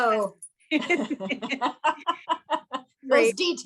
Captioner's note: women laughing